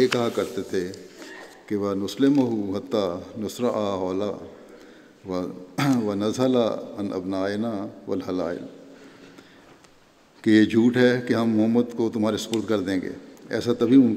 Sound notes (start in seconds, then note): 1.7 Arabic